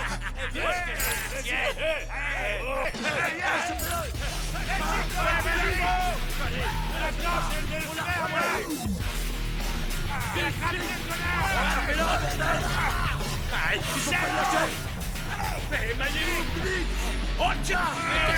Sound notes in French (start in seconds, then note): 3.0 des gangsters crient; 3.0 musique heavy metal intense